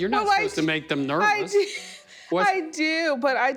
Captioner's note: laughing